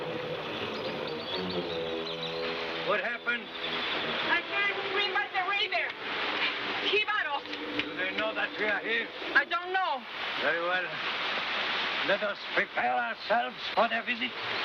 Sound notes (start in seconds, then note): 6.8 speaking in foreign language